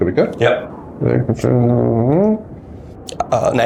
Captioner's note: mumbles